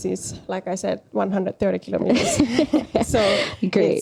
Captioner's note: naurua